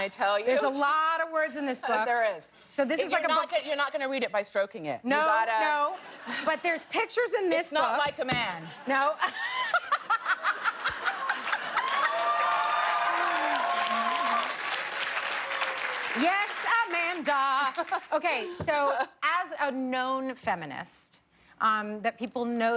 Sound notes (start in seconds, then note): 12.2 laughter